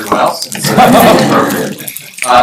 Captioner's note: laughter